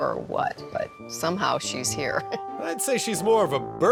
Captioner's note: laughs